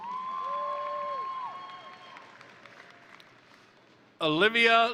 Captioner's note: crowd cheering; crowd applauding